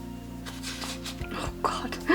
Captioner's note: whispers